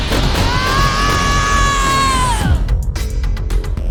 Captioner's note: screaming